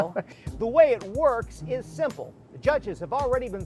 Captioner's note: chuckles